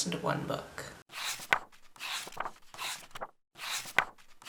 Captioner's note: pages turning